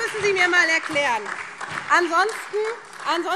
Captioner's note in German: Beifall SPD und vereinzelt DIE LINKE - Zurufe SPD: Sechs Jahre!